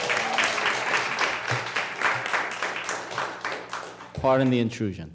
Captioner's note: applause